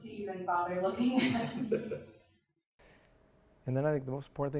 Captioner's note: laughs